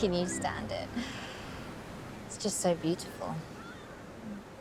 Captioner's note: chuckles